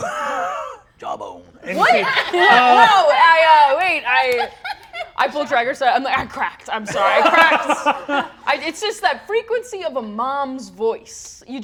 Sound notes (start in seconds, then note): 1.6 laughs; 6.9 Brennan laughs